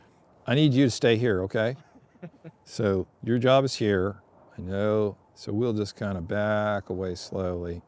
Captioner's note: laughter